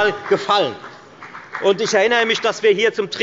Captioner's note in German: Beifall bei der FDP und bei Abgeordneten der SPD